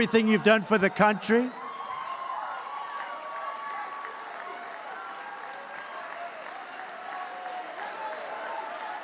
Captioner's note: applause